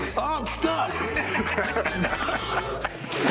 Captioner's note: laughs